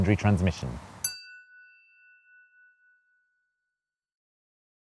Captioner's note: chiming tone